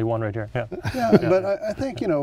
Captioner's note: laughs